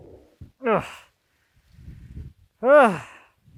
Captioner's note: groans